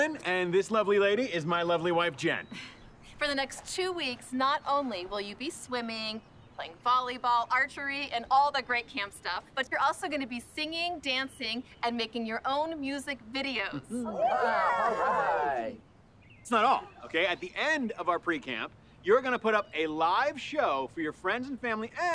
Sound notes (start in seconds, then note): 14.0 kids cheering